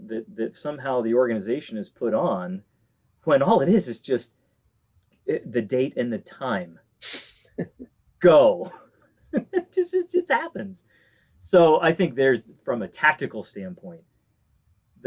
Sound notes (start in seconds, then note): 8.2 chuckles; 9.3 laughs